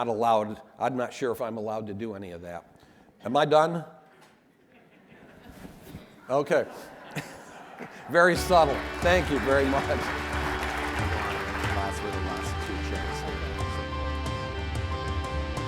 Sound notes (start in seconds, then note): 5.3 audience laughing; 10.6 audience applauding; 10.6 upbeat music